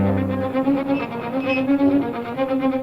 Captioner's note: brakes screeching